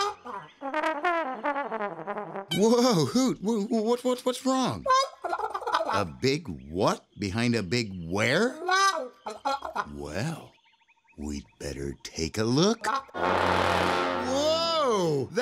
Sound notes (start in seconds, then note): 0.6 upbeat trumpet music; 5.6 Hoot honking; 8.5 Hoot honking; 12.9 loud honking